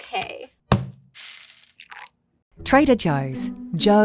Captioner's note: bag thudding and coffee pouring